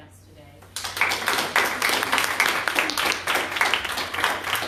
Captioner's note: applause